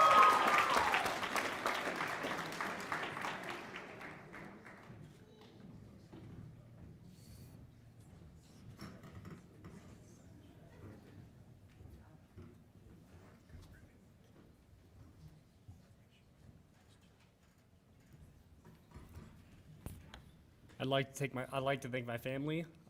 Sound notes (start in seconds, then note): 0.0 cheers and applause; 2.1 applause